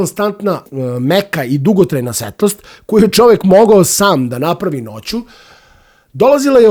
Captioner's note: sigh